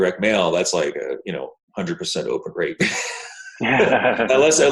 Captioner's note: laughs